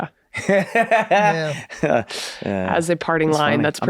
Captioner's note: Glenn laughs